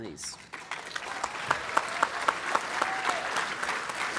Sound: applause

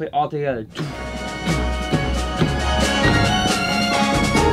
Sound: beatboxing

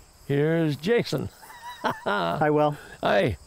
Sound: laughs

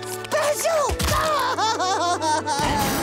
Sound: crying

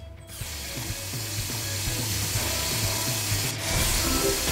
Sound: drill drilling

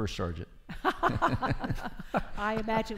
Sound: laughing

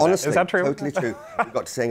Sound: laughs

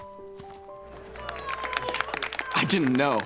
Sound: applause

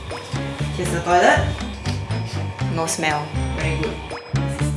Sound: sniffs

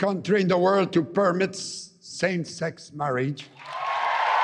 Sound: cheering and APPLAUSE

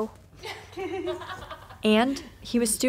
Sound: laughter

